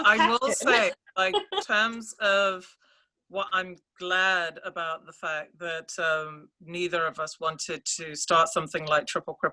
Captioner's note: laughs